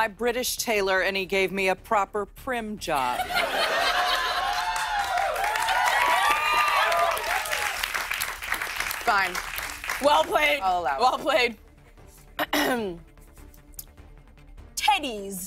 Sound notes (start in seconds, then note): 3.1 laughter; 3.4 cheers and applause; 12.4 clears throat